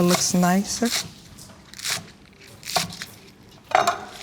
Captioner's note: knife clatters